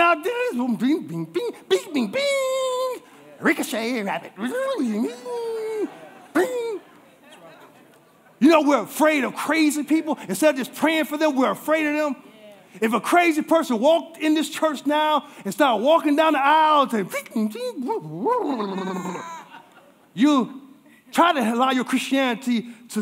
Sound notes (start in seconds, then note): 6.8 congregation laughing